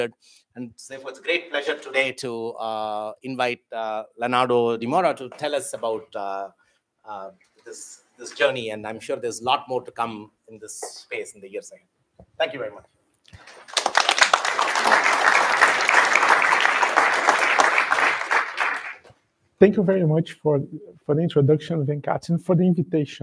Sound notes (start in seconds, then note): 13.3 applause